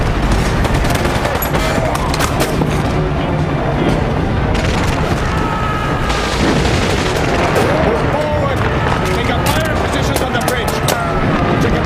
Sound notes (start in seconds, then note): 0.2 grunting; 0.2 guns firing; 5.2 screaming